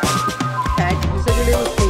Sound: speaking faintly

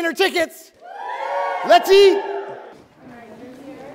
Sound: congregation cheers

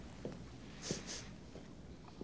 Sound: sniffs

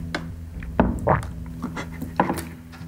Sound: gulps

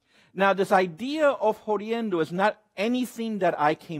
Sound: speaks Spanish

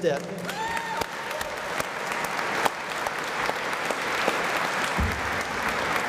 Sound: applause

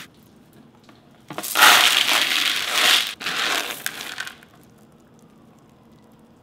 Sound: soybeans rustling

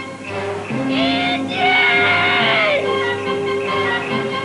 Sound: screaming

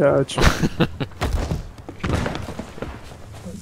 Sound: laughs

